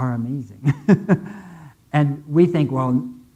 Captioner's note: laughing